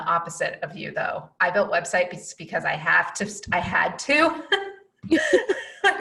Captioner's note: laughs